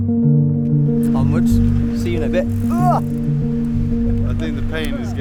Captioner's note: groan